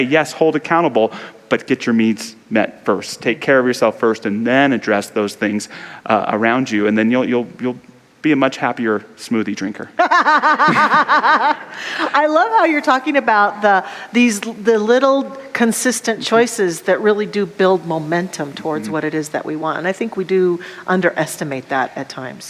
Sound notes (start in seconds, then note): 10.0 laughs